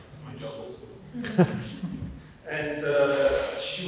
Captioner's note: audience laughing